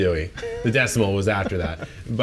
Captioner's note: laughs